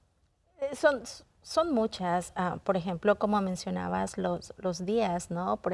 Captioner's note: speaking in Spanish